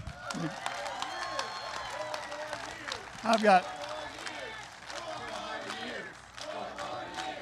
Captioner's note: applause